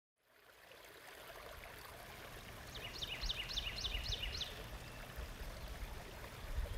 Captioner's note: birds chirping and flowing water